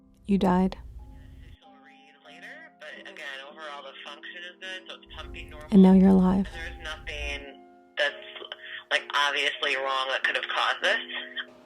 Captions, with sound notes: You died- [Doctor on phone] ...but again, overall, the function is good, so it's pumping normally. -and now you're alive. There's nothing that's obviously wrong that could have caused this,